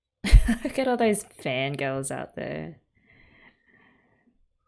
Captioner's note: laughs